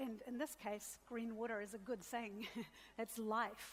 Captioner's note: laughs